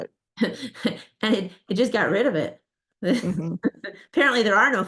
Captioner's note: laughs